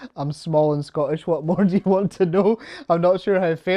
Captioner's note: chuckles